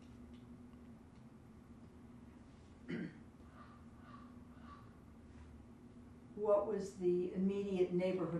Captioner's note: pauses 6 seconds